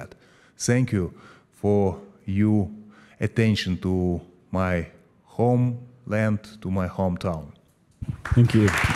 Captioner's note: applause